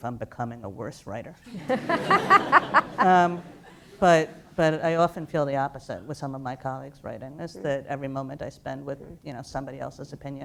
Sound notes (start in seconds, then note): 1.4 laughter